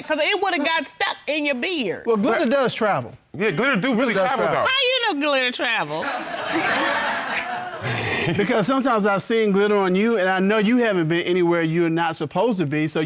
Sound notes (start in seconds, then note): 5.8 all laugh